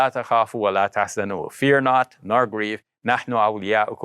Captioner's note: foreign language